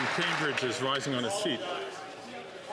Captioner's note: some Applause